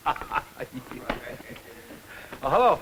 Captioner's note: laughter